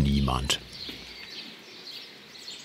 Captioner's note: birds chirping